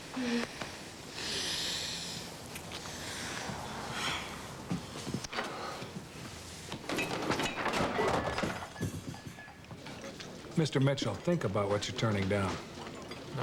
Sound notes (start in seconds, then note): 6.9 crash